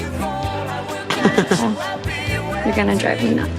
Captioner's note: Gaten laughing